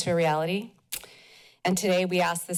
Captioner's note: tongue clicks